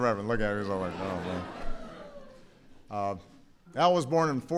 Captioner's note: laughter